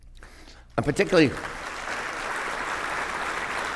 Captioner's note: applause